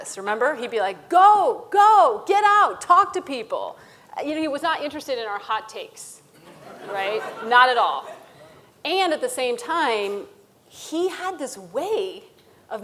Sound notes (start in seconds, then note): 6.4 audience laughing